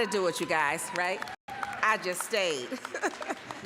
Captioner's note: applause, cheering; laughing